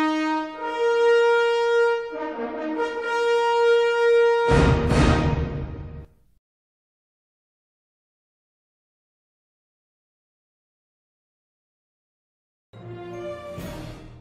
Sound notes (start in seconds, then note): 5.6 silence